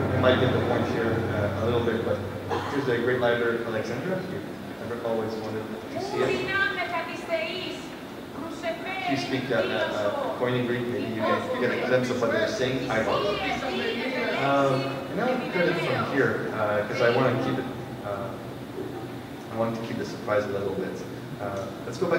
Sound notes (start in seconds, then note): 7.8 game characters chatter